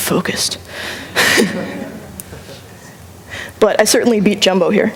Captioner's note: laughter